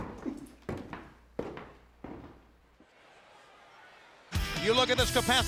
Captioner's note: feet shuffling